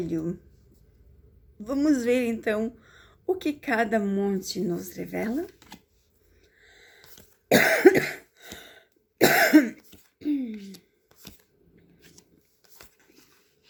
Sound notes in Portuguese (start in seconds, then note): 7.6 limpando a garganta; 9.2 tosse